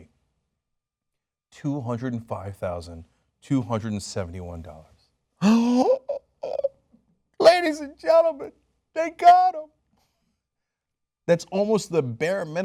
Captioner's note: gasps